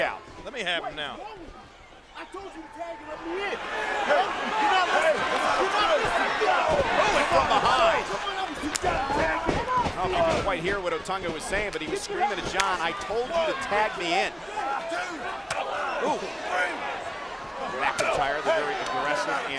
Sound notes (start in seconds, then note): 8.5 footsteps plodding; 12.4 hands clapping; 14.5 blows thudding